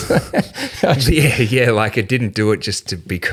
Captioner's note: laughing